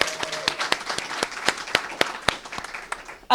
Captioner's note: applause